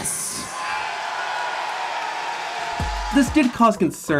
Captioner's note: audience shouting